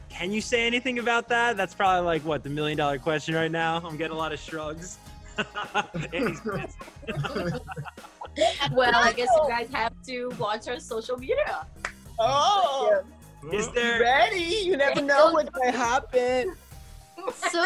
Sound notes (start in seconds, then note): 5.3 laughs